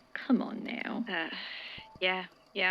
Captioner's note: sighs